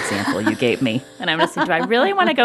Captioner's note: laughter